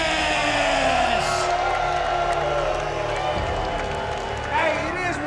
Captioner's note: crowd booing